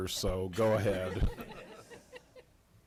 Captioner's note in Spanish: risas